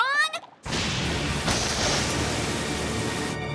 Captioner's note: thunder crashes